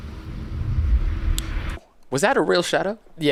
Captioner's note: shadow swooshes